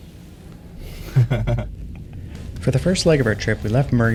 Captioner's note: laughs